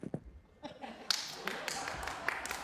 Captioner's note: laughter; clapping